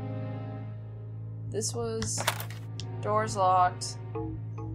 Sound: door clicking

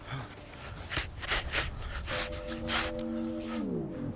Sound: Rahel sniffles

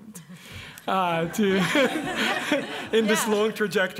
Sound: laughter

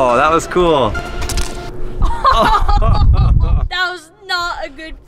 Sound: laughing

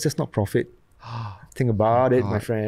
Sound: gasps

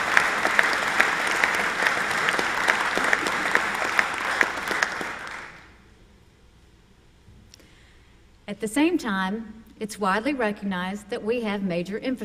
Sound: applause

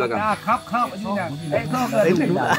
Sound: speaking Thai

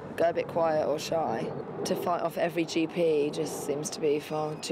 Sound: none

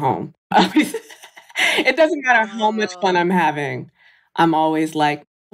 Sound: laughs

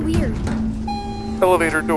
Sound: elevator opening

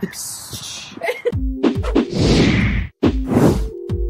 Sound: hissing; upbeat music; logo whooshing; graphics whooshing

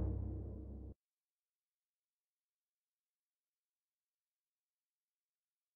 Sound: silence

